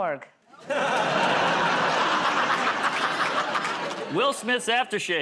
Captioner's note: laughter